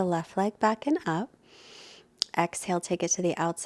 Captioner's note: inhales deeply